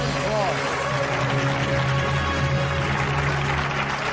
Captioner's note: applause